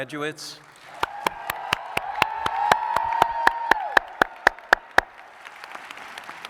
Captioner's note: audience cheers and applauds